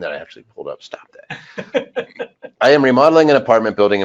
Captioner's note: laughing